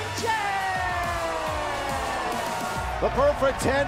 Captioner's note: cheers and applause